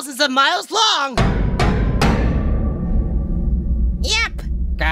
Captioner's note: dramatic "ding" sound plays three times